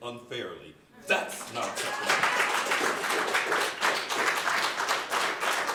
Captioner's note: audience applauding